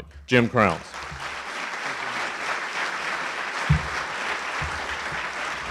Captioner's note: audience applauding